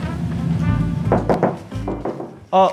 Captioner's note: knock knock knock